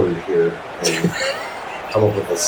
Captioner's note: crowd Noises